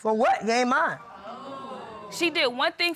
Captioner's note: audience exclaiming